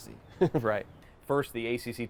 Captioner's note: chuckles